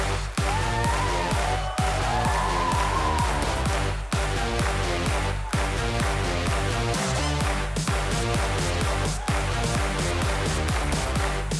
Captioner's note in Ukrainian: оплески